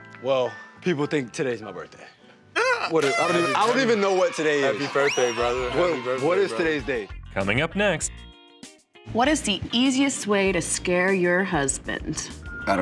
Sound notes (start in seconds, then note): 2.6 exclaims; 3.4 party blower wailing; 7.5 voiceover